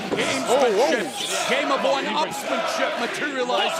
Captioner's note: fans chanting